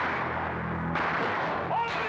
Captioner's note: wham